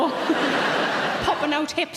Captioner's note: audience laughs